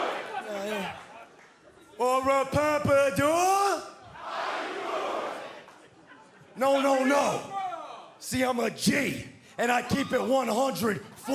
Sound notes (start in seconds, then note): 0.2 fans chanting